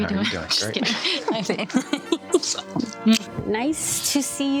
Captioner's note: laughing